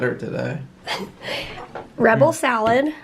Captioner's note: chuckles